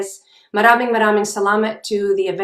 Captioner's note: speaking in foreign language